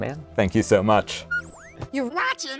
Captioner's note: whistling beep